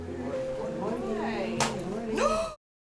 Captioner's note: gasps